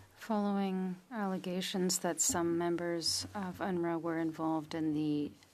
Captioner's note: speaking French